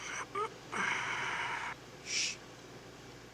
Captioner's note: snores